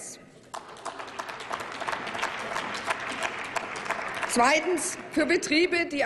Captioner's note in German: Applaus